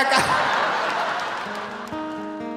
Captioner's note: audience laughing; gentle guitar music